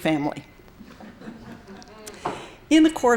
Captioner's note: laughter